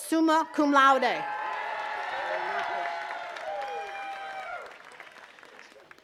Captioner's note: attendees cheering and clapping